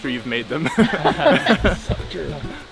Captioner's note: all laugh